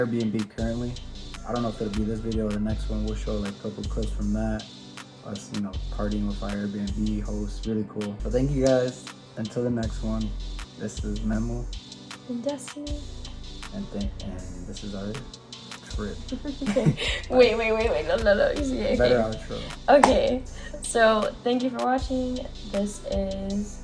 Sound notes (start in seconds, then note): 16.3 giggles